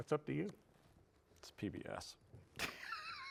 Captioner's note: laughs